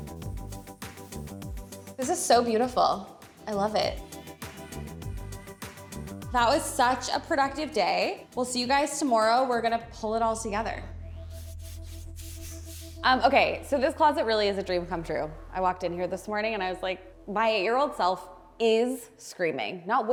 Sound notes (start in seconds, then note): 11.2 animation scratching